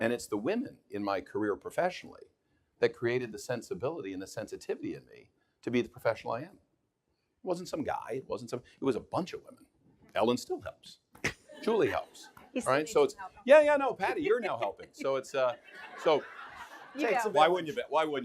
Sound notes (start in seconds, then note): 15.0 audience laughing